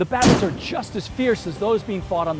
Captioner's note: cannon firing